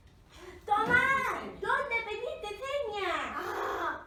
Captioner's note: screaming